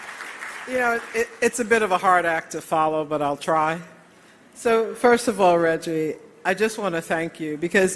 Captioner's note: applause